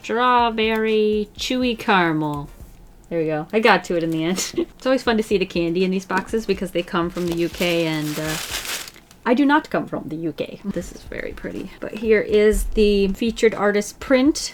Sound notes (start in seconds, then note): 4.1 short laugh